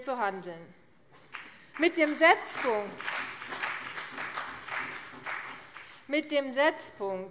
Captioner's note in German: Beifall CDU und BÜNDNIS 90/DIE GRÜNEN